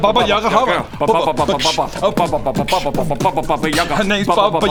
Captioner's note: beat-boxing